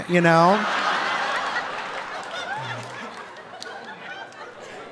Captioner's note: audience laughing